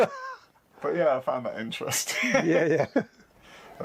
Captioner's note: laughs